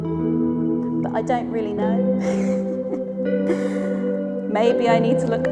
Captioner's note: laughs